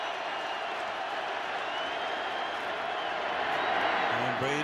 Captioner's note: cheering